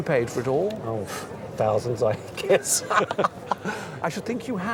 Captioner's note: laughs